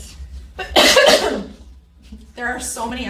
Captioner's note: instructor coughs